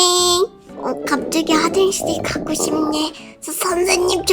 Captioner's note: grrr